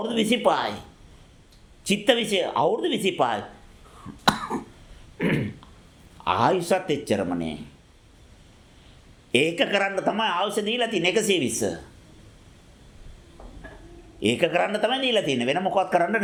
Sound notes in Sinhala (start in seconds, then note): 5.2 උගුර කෑරීම; 5.2 කැස්ස